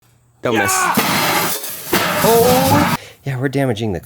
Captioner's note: loud aggressive shouting